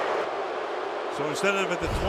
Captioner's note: booing